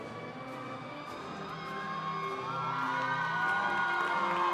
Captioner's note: crowd cheering